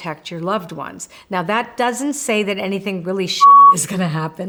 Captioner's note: beep